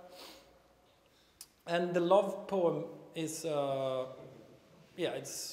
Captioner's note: none